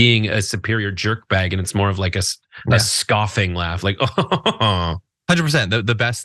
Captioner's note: laugh